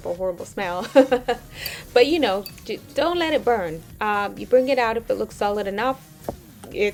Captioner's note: laughs